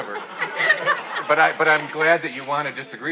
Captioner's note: audience laughing